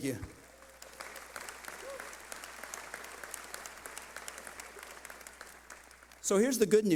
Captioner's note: clapping